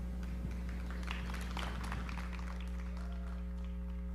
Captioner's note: audience clapping